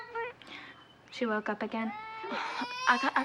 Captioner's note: allison crying